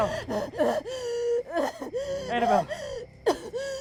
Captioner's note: Annabel gasping and hacking